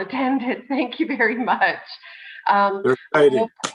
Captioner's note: laughs